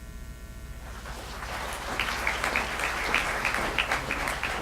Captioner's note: applause